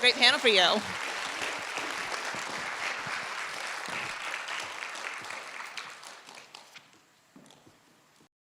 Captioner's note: audience applauds